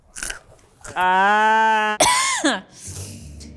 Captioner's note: groans; coughs